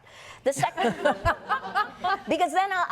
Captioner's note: laughter